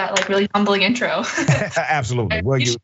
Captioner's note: laugh